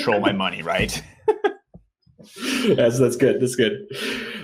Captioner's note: laughs